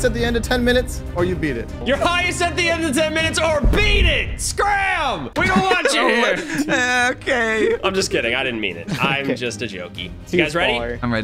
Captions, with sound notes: at the end of 10 minutes, or you beat it. - You're highest at the end of 10 minutes, or beat it, scram! We don't want you here! - Oh man! (people laughing) Eh, okay! - I'm just kidding, I didn't mean it. I'm just a jokey. You guys ready? - Too far.